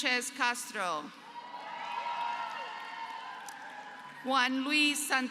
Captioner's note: applause